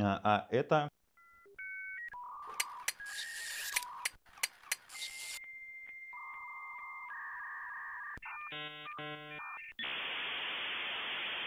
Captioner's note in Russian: звук интернет-соединения старого модема